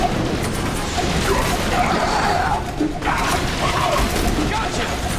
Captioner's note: rapid gunfire